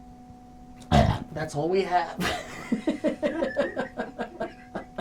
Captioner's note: belches; laughing